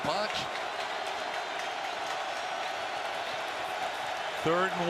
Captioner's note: crowd cheers